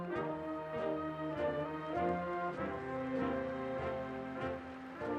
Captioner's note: audience applauding